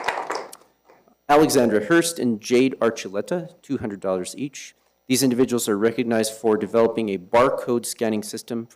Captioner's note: applause